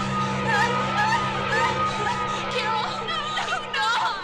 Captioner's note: suspenseful music; girls screaming